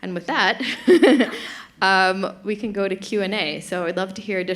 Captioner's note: chuckles